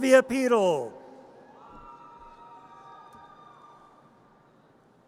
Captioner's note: audience cheers